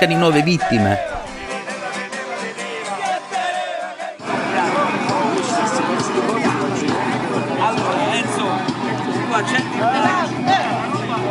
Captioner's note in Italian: Applauso